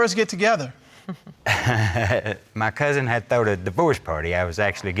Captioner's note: chuckles